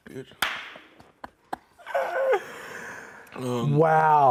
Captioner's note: laughing and clapping